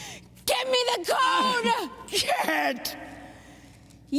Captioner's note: shouting